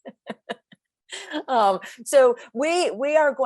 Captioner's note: chuckling